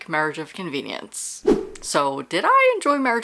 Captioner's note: whoosh